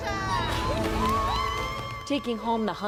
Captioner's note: judges cheering